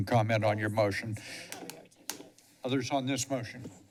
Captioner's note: background chatter